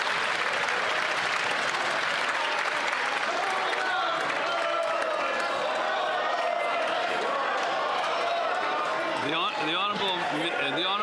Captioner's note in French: applaudissements